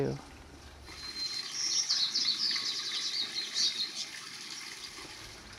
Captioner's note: water running